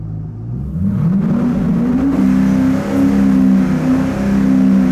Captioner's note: engine revving